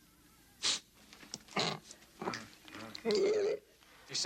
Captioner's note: Qahhar grunting